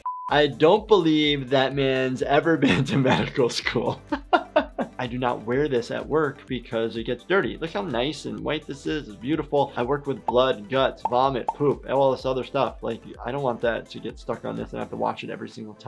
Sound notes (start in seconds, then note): 0.0 buzzer beeps; 4.1 laughs